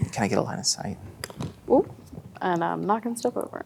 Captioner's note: mini figure clatters